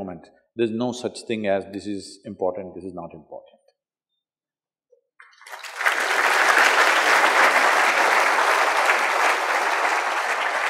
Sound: applause

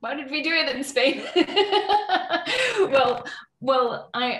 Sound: laughs

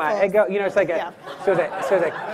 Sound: audience laughing

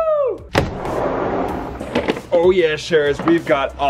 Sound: door sliding open

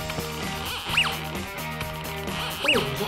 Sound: detector beeps

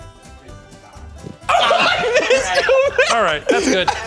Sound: laughing

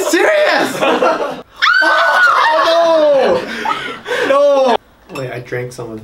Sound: squealing

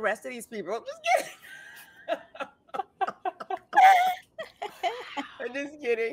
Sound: both laughing

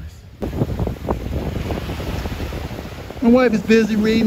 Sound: waves rushing

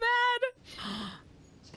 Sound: gasp

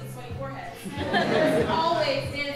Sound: audience laughing

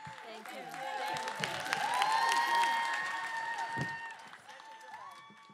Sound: cheering

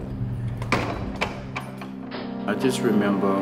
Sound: metal clanking

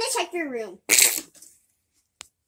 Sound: Teddy Farting

